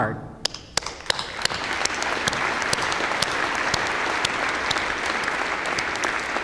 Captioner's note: applause